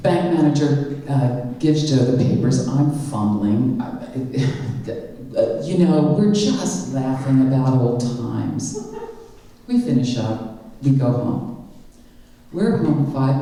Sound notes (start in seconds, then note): 2.5 laughter